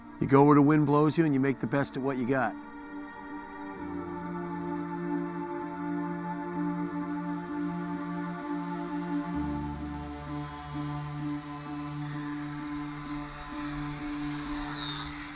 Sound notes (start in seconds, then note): 3.8 dramatic music; 8.1 chainsaw buzzing